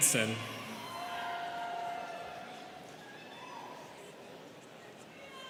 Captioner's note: students cheering